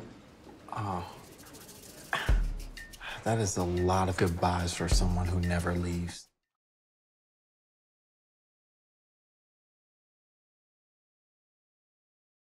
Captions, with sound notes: Ohh. [ Scoffs ] 00:01:23.333,00:00:00.000 That is a lot of goodbyes for someone who never leaves.